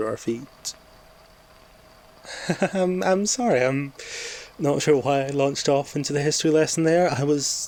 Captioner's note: nervous laugh